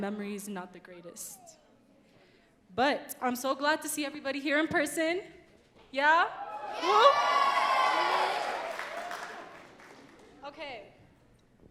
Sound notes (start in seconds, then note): 6.5 audience cheering and clapping